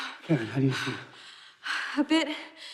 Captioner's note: Karen panting